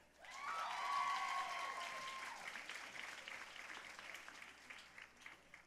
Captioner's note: audience cheering and applauding